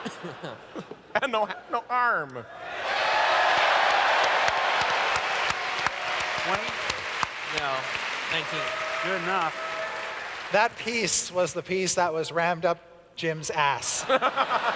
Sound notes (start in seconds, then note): 2.6 audience cheers